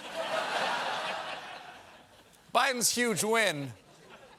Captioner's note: laughter